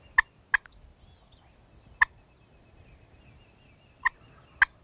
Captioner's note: imitating turkey gobbling